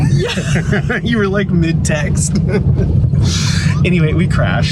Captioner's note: laughing